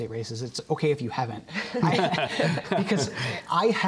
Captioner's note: men laughing